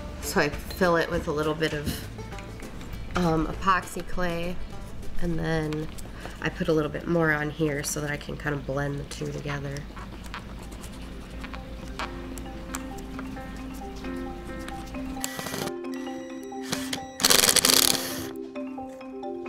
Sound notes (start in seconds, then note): 11.1 light instrumental music; 16.6 tool whirring